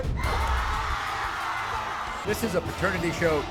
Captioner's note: crowd roars